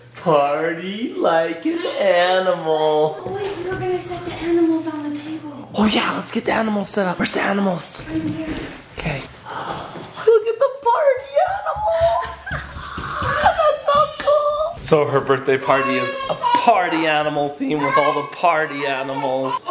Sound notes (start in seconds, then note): 9.4 both gasp; 11.6 mom laughs